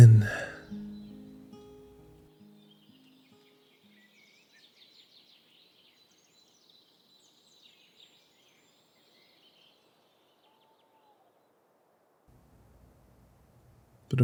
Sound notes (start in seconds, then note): 2.3 birds chirping